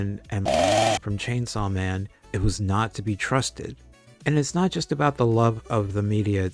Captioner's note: chainsaw noise